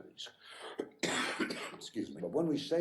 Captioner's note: coughing